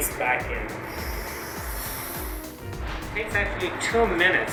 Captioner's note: buzzing